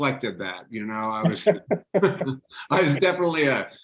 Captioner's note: laughing